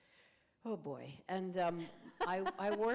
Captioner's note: laughter